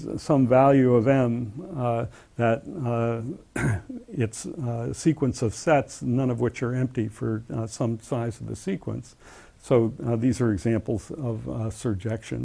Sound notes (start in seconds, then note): 3.5 cough